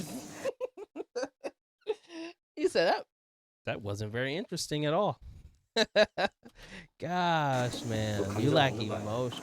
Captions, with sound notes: (laughs) You said that? That wasn't very interesting at all. Gosh, man, you lack emotion.